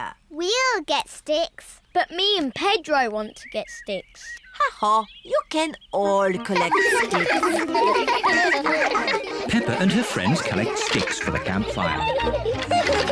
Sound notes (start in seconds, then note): 6.4 all giggling